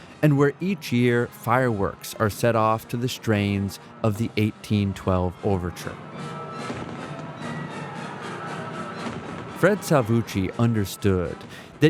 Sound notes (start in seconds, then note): 5.8 dramatic music continues; 6.4 fireworks exploding